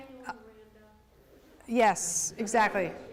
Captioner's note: woman mumbles off-microphone